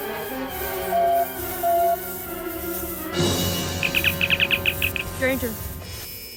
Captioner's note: communicator beeps and opens